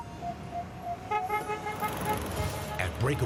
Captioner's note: car horn honks